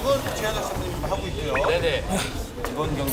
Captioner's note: grunt / Grunt